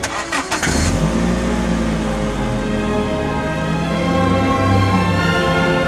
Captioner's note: car engine running